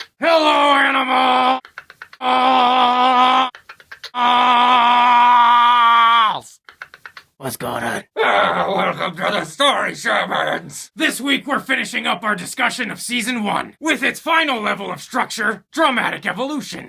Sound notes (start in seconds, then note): 1.6 click click click click click; 3.8 click click click click click